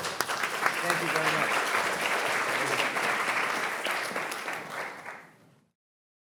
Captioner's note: audience applauding